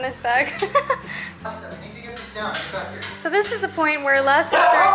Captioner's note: laughter